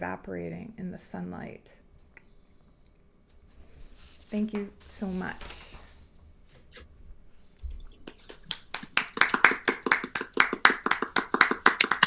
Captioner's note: applause